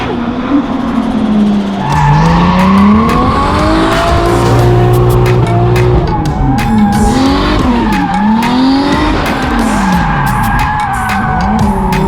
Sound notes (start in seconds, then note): 0.1 engine revs; 2.2 tires squealing; 4.2 engine revs; 6.2 tires squealing